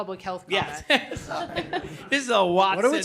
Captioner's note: laughter